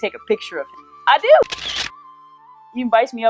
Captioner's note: camera clicking